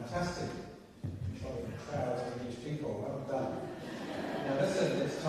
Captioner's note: laughter